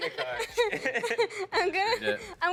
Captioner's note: laughing